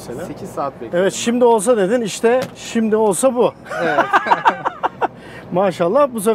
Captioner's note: laughing